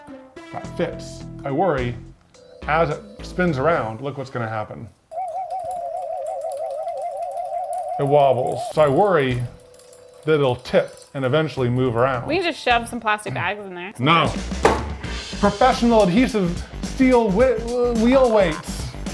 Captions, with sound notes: I worry, as it spins around, look what's gonna happen. (bat wobbles) It wobbles. So I worry that it'll tip and eventually move around. We can just shove some plastic bags in there. No. (upbeat music) Professional adhesive steel wheel weights